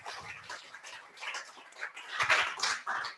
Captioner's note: applause